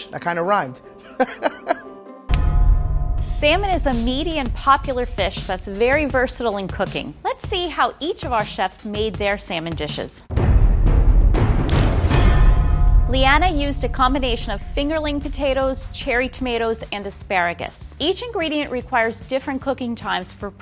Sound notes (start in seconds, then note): 0.9 laughs; 2.5 dramatic music; 10.5 dramatic music